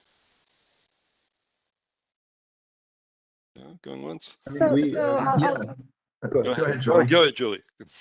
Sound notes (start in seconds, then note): 4.4 murmurs